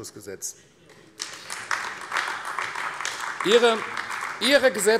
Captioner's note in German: Beifall AfD